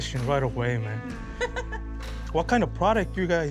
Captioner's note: laughs